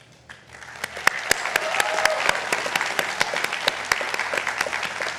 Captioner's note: attendees applauding